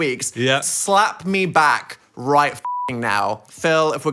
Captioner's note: beep